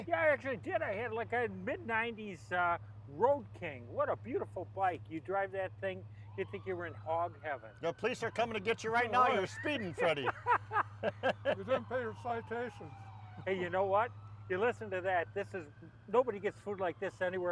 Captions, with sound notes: - Yes, I did. I had like a mid-nineties road King. What a beautiful bike. You drive that thing. You think you were in hog heaven? (Police Sirens) - The police are coming to get you right now. You're speeding, Freddy. - (laughter) - You didn't pay your citations. - Hey, you know what? You listen to that. This is, nobody gets food like this